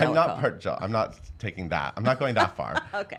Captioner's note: laughs